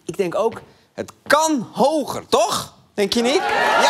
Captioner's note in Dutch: gejuich en applaus